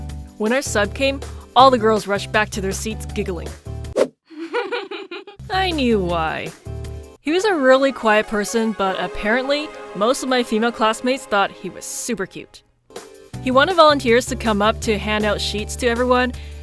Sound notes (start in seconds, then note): 3.6 whoosh; 4.3 giggle; 4.3 whoosh